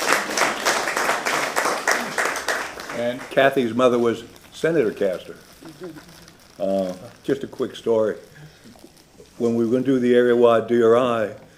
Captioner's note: applause